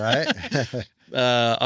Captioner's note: laughs